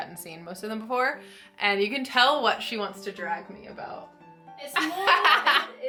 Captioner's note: laughs